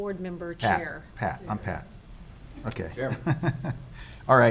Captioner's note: laughs